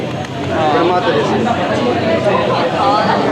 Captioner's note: speaking Japanese